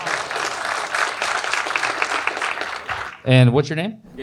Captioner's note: audience Applause